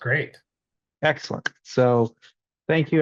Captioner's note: claps